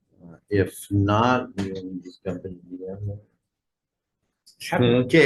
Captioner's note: faintly speaking